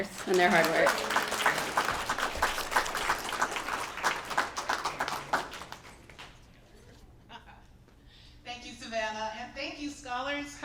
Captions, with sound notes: and their hard work. [ Applause ] >> Thank you, Savannah. And thank you, scholars.